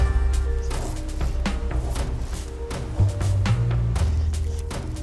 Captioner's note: fishing pole whipping